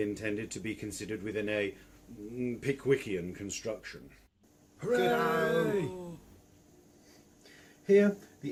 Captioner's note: great cheering